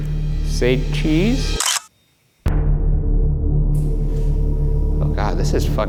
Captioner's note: camera shutter clicking